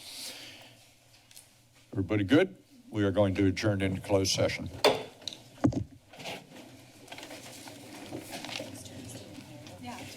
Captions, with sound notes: Everybody good? We are going to adjourn into closed session. [Tapping sound]